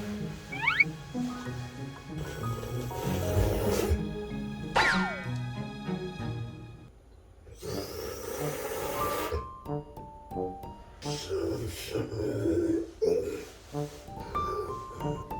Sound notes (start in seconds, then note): 2.3 starting to snore